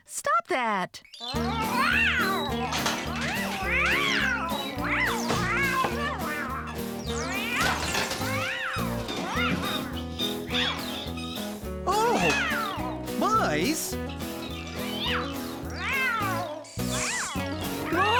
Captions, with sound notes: STOP THAT! ( Excited Meowing Continues ) ( Clatter! ) ( Thump! ) ( Crash! ) ( Squeaking ) OH! MICE!?? ( Meowing Continues )